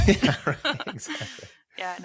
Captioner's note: all chuckling